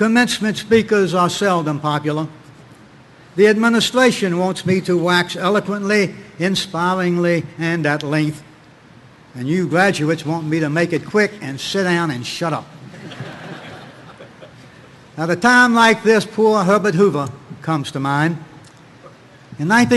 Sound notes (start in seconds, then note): 12.8 audience laughing